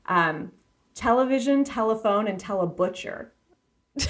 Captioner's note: laughing